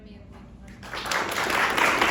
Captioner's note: applause